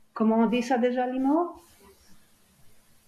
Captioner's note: french